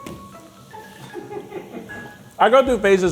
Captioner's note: crew chuckling